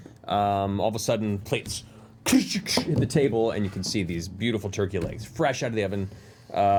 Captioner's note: clanging